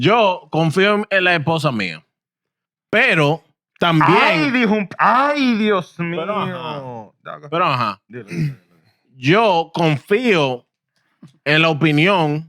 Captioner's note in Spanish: Hablando en idioma extranjero